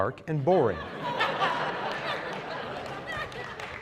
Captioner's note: laughter